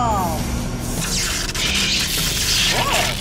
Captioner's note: zapping noise